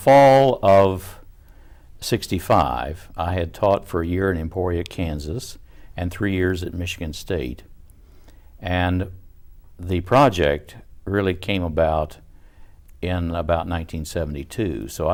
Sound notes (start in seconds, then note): none